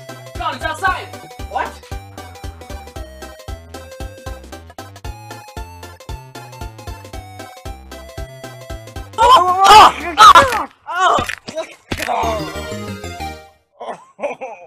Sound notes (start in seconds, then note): 11.9 grunting in pain